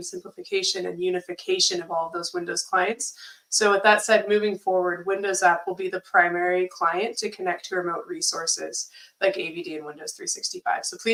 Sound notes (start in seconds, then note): none